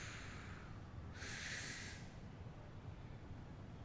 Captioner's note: exhales; inhales